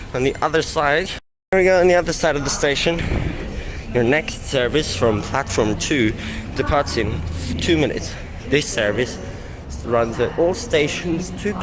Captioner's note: reciting announcement